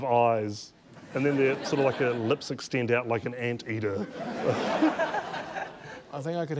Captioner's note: laughter